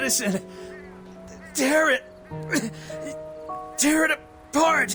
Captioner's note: cough